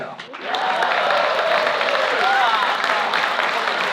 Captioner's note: crowd applauding